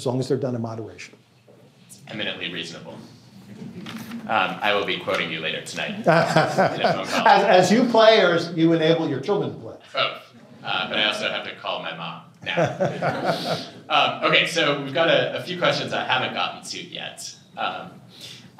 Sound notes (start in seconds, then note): 5.8 laughs; 12.4 laughter